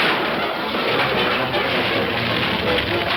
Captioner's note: fire crackling